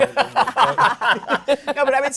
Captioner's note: laughter